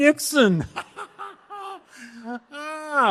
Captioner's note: laughing